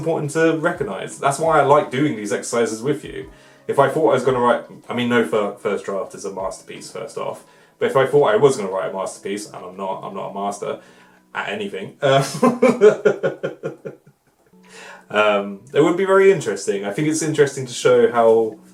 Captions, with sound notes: important to recognize, that's why I like doing these exercises with you, if I thought I was going to write ... I mean, no first draft is a masterpiece, first off, but if I thought I was going to write a masterpiece ... and I'm not .... I'm not a master at anything [Laughter] um, it would be very interesting I think it's interesting to show how,